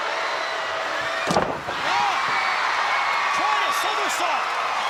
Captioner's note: crowd cheering; body thudding